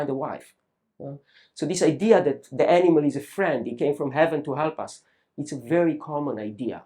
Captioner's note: none